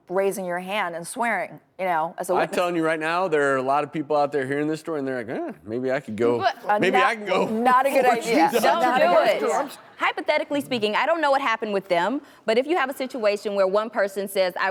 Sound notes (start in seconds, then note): 7.9 chuckles